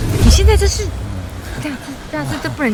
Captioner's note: shhh